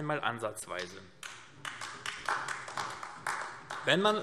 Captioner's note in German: Beifall AfD